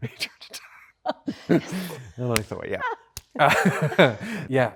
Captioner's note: Greta laughs